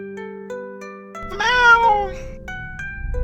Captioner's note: meow! meow!